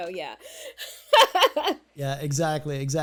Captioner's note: laughs